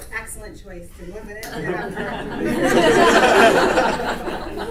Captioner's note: audience laughter